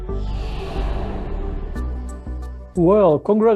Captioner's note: air swooshing